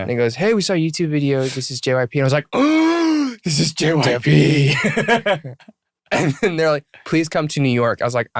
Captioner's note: gasp